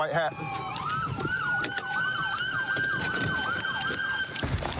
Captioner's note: siren wailing